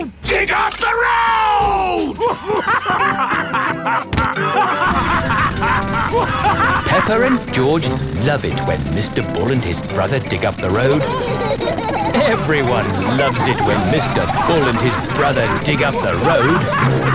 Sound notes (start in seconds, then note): 3.0 both laughing; 6.4 drilling; 12.0 laughing